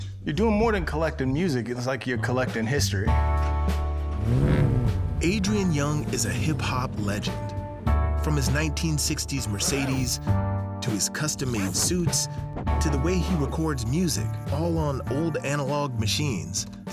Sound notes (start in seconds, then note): 3.8 engine revs